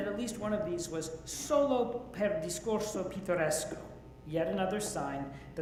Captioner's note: speaks Italian